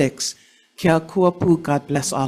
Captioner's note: speakings foreign language